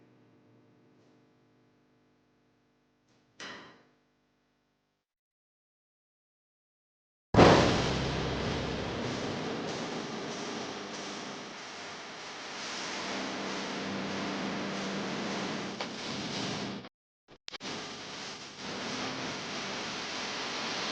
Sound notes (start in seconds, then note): 7.3 locker door slam